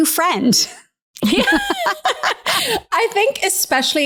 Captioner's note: both laughing